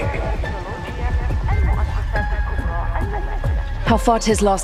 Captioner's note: arabic announcements